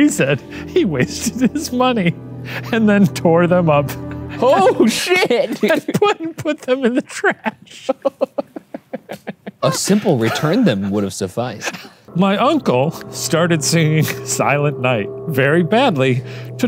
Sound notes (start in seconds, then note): 4.0 laughs; 4.2 laughing; 5.6 laughs; 8.3 laughs